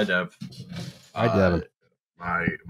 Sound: sounds of movement from mic

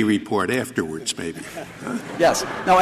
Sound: laughter

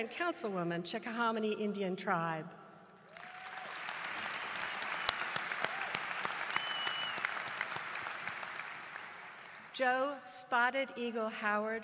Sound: applause

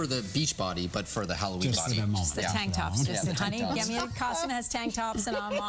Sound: laughter

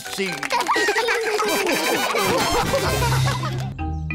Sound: all laugh

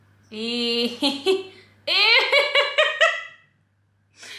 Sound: laughing

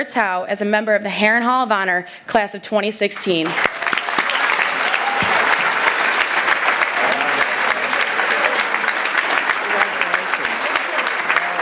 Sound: applause

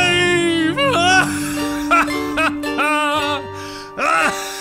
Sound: maniacal laughing, fades

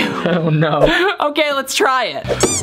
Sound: chuckling

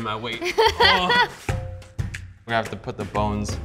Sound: laughs

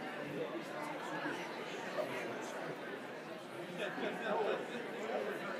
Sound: people continue chattering

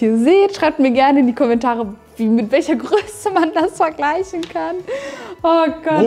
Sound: laughing

